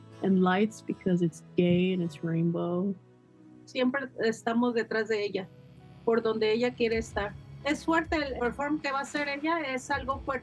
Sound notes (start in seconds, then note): 3.5 speaks in Spanish